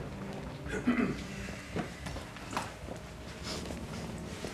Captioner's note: Drake clears throat